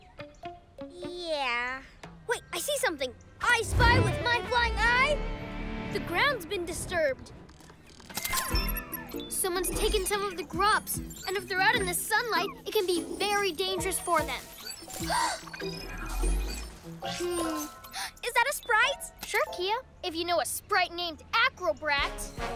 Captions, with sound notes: - Yeah... - Wait, I see something! I spy with my flying eye... The ground's been disturbed. Someone's taken some grubs! If they're out in the sunlight, it can be very dangerous for them! (Gasps) - Hm... - (Gasps) Is that a sprite? Sure, Kiya, if you know a sprite named Acrobrat!